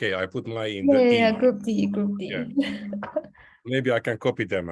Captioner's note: chuckles